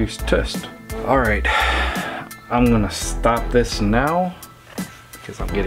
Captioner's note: sighs